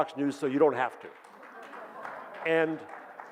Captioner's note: audience claps